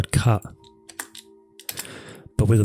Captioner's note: taps on keyboard